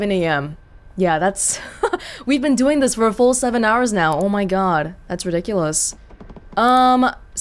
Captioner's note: chuckles